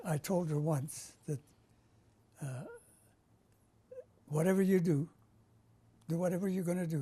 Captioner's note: pauses for 3 seconds